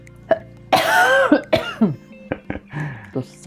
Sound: caughing in Lithuanian

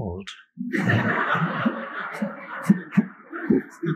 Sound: laughter

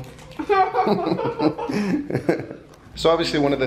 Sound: laughter

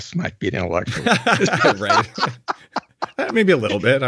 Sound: both laugh

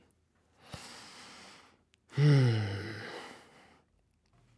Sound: inhales softly

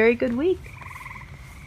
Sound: frog sounds continue and then fade out

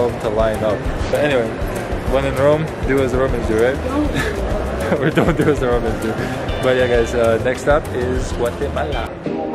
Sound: laughs

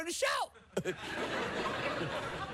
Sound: laughter

